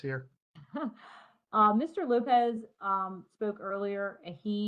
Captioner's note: chuckles